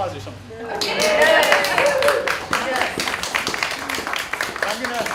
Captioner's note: applause